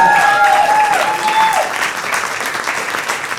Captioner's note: audience cheering